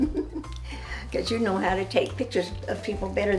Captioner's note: laughs